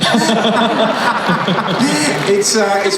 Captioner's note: laughing